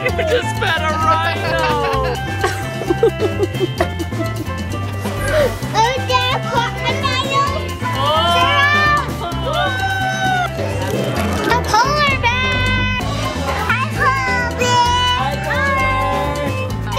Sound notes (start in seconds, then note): 2.6 chuckles